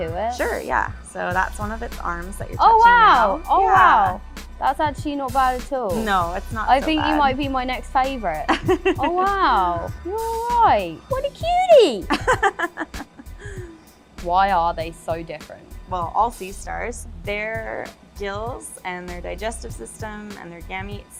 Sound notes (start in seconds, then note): 12.1 laughter